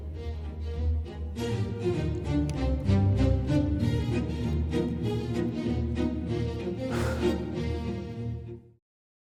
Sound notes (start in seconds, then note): 0.0 lighthearted orchestral music; 6.8 deep sigh